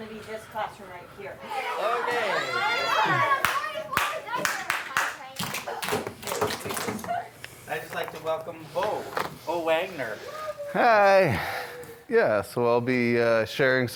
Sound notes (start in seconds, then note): 1.5 children clamoring; 3.0 teacher clapping; 5.8 students clapping